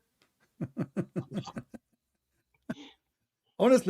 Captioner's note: Ketawa